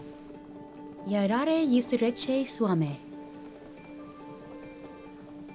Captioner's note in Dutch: Catherine spreekt Russisch